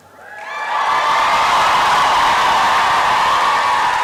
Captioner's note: applause and cheering